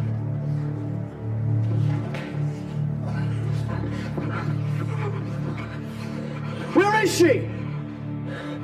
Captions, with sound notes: ( Grunts ) Where is she?